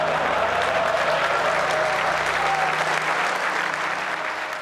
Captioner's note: Jony Ive, Al Gore and the audience laughs